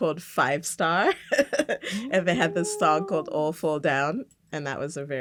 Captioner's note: laughs